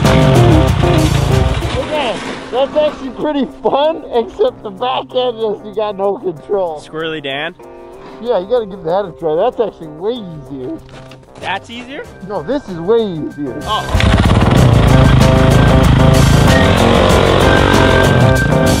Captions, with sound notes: - Okay, that's actually pretty fun. Except the back end just, you got no control. - Swirly Dan? - Yeah, you gotta give that a try, that's actually way easier. - That's easier? - No, this is way easier. - Oh. (engine revving) (upbeat music)